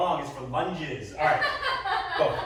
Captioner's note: laughter